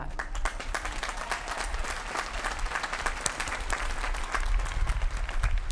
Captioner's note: applause